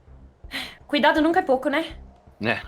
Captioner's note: sighs